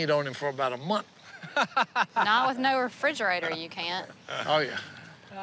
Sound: laughing

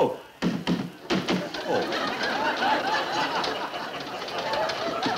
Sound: machine rumbling

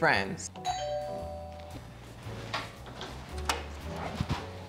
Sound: doorbell rings

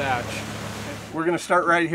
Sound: boat engine running

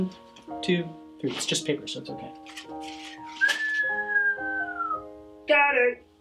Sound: Danny Joe whistling

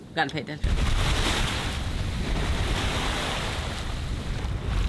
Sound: waves crashing

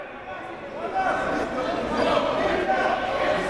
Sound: crowd talking

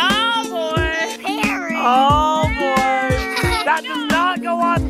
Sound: giggles

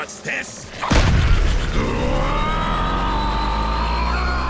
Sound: growling

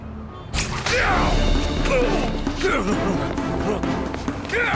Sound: wincing

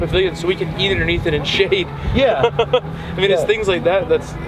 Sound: chuckles

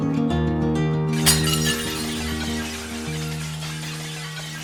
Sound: falling Plates crashing

